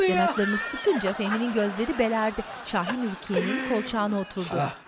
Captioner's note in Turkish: Gülme sesi